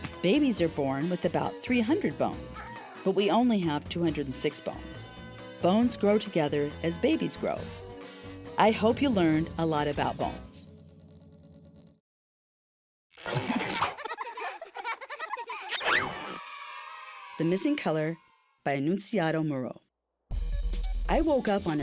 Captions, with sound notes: Babies are born with about 300 bones, but we only have 206 bones. Bones grow together as babies grow. I hope you learned a lot about bones. (children laughing) (children cheering) THE MISSING COLOR by Annunciato Muro.